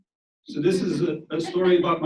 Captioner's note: audience laughs